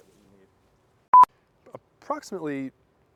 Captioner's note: screen beeps